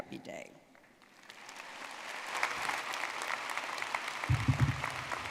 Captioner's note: audience clapping